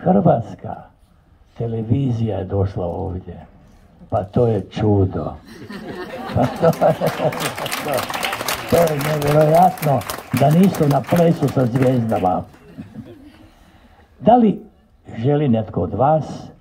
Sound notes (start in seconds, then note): 5.4 laughter